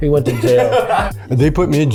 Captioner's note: laughs